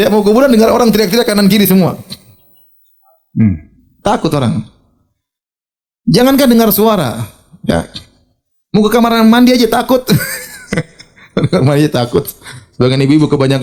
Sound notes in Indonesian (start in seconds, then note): 3.3 berdehem; 10.1 tertawa